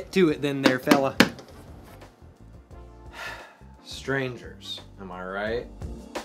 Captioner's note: slaps window frame; sighs